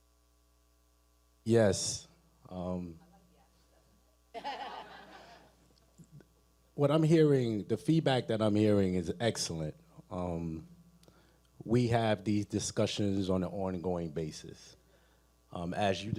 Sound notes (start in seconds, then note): 3.7 speaking away from mic; 4.3 audience laughing